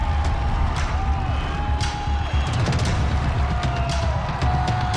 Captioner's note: cheering